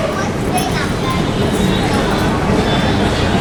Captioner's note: station crowd ambience